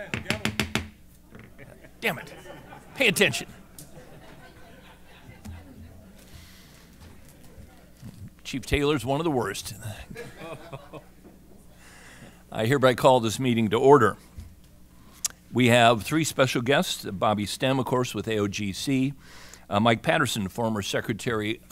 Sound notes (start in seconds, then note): 3.7 laughter; 10.0 laughter